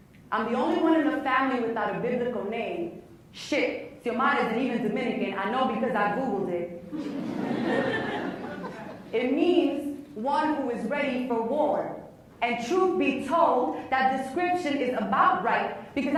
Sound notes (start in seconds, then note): 7.0 laughs